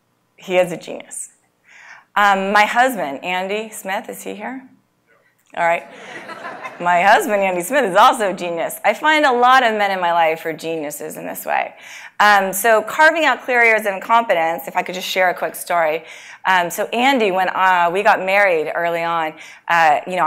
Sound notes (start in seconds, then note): 5.8 laugh